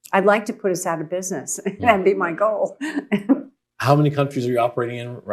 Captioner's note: laughs